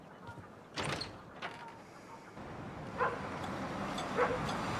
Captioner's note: door opens